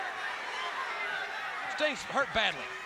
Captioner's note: crowd chatter